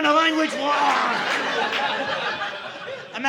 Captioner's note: audience laughing